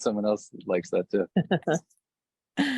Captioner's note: chuckling